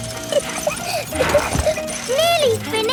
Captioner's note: peppa laughing